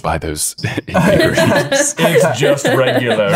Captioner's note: laughing